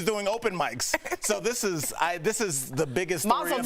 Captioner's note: laughter